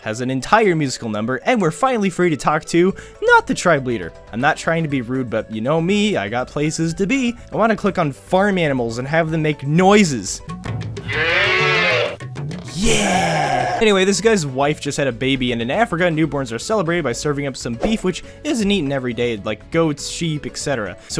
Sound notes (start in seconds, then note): 11.0 mooing; 12.5 bleating